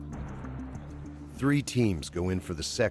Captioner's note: voiceover